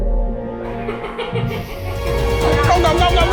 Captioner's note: laughter